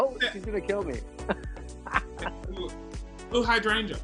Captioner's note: laughter